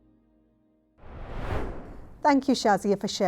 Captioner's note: screen swooshing